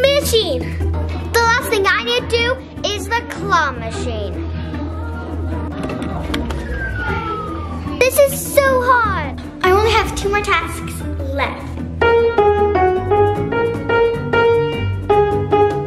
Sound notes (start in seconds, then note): 6.6 claw machine beeping; 11.4 plays piano